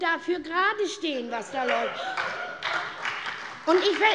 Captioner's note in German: Heiterkeit und Beifall bei der SPD